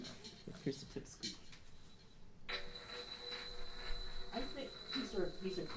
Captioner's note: rolling, rattling sound; smaller rolling rattling sound